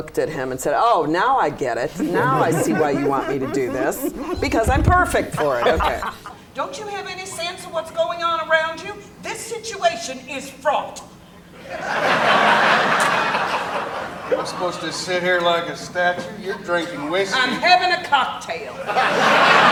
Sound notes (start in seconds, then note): 1.9 laughter; 7.5 laughter